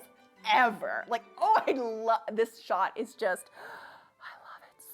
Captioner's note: inhales